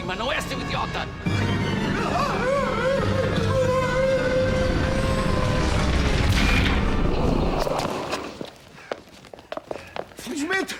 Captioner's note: shrieks of fear